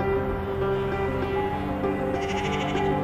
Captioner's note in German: Blöken